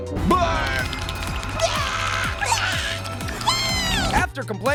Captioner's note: characters burping